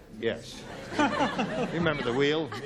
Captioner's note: laughter